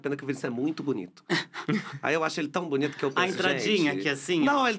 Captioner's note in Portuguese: riem